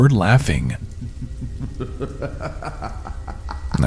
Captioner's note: creepy laughing